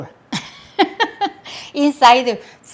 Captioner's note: laughs